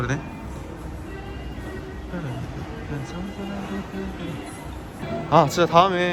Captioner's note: humming